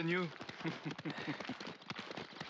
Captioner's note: laughs